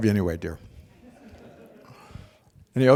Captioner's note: laughter